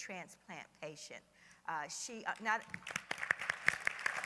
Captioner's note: applause